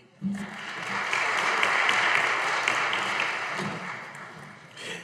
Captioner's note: audience applauding